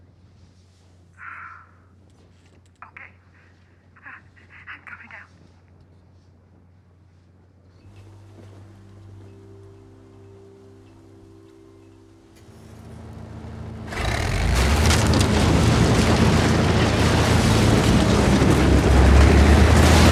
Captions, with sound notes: (Kathy sighs) Okay. I'm coming out. (gentle music) (wood breaking) (tank crushing building)